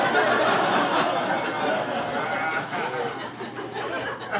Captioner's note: crowd laughing